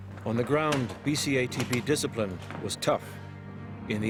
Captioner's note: voiceover